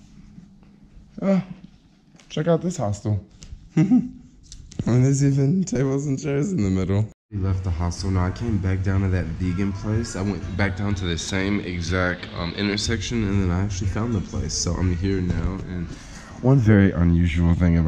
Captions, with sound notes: Ah, check out this hostel (laughing). Well, there's even tables and chairs in the middle. We left the hostel. Now I came back down to that vegan place. I went back down to the same exact intersection and then I actually found the place, so I'm here now and one very unusual thing